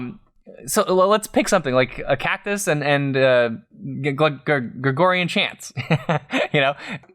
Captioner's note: laughter